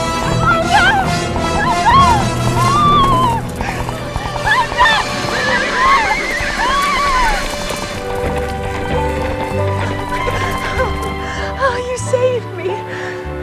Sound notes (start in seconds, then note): 3.0 indistinct screaming; 5.4 horse neighs